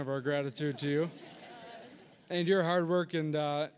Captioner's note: audience laughing